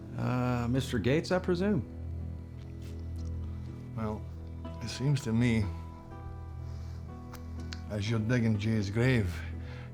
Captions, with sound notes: UH... MR. GATES, I PRESUME? [SCOTTISH ACCENT] WELL, IT SEEMS TO ME... AS YOU'RE DIGGIN' JAY'S GRAVE,